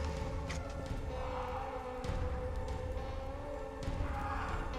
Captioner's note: distant clamoring